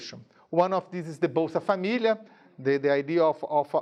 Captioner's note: speaking in a foreign language